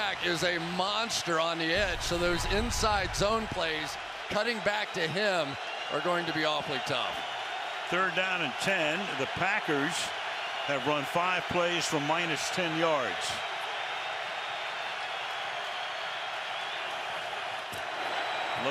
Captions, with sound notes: Khalil Mack is a monster on the edge. So those inside zone plays, cutting back to him, are going to be awfully tough. Third down and 10. The Packers have run five plays for minus 10 yards. [crowd cheering]